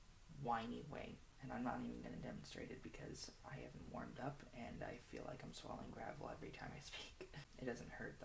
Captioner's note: laughs